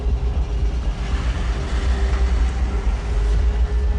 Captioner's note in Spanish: Sonido de carros